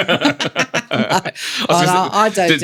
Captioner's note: laughter